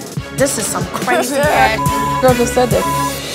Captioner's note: beep